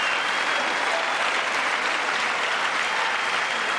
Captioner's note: applause